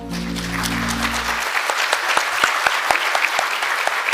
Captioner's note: audience clapping